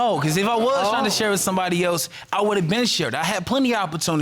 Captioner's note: audience exclaiming